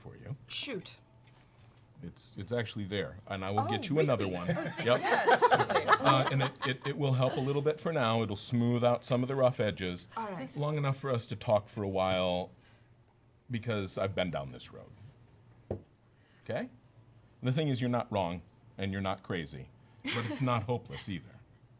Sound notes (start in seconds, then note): 4.2 laughter